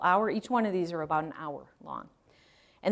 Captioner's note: none